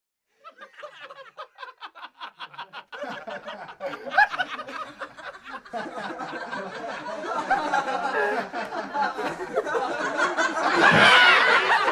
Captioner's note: AUDIO: Friend group laughter - 60-90 seconds